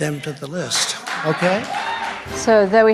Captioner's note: applause